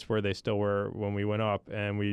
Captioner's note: none